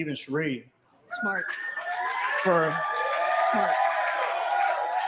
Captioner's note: video: cheers & applause